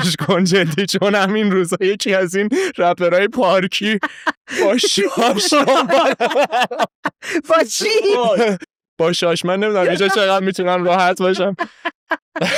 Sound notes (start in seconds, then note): 6.6 laughs; 9.8 laughs